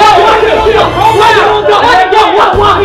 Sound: yelling

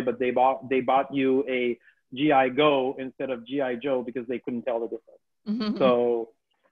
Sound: laughs

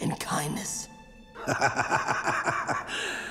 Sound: laughing

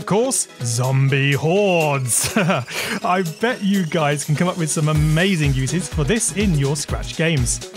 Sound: laughs

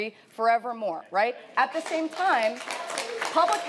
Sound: audience applauding

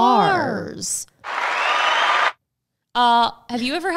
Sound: cheering sound

